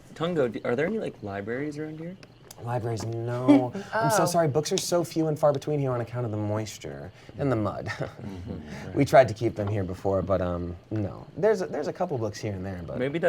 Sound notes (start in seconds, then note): 3.4 laughs; 7.8 chuckles